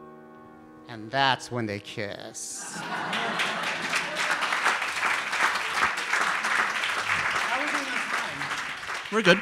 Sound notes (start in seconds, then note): 2.6 audience laughs; 2.7 audience applauds